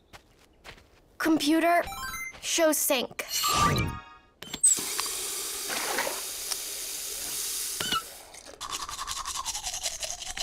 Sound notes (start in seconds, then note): 4.8 running water